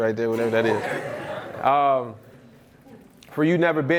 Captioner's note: audience laughs